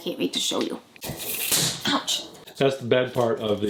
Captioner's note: Command strip snapping